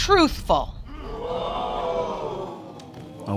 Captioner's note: audience exclaims